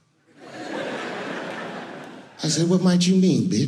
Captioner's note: audience laughing